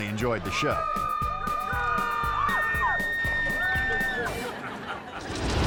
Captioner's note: twangy music; people hooting; audience laughing